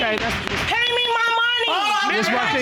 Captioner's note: gavel banging